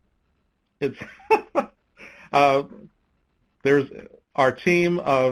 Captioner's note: laughs